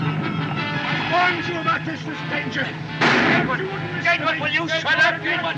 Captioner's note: gunshot